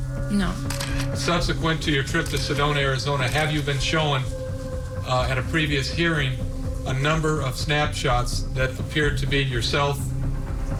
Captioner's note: camera shutter clicks